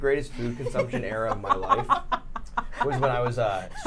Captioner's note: laughing